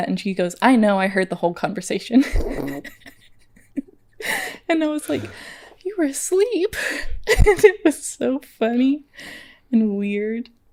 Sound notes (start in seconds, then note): 2.2 laughing; 7.3 laughs